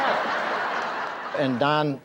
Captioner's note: audience laughs